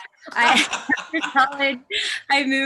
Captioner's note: laughs